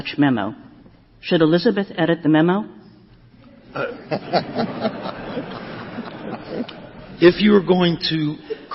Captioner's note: laughter